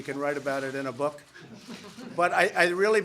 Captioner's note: laughter